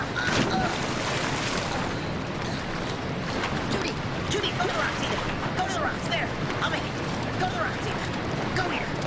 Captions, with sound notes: (splash) (grunts) - Ita! Ita, go to the rocks there! Go to the rocks, Ita! Go, go, go!